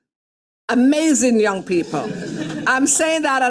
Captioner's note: attendees laughing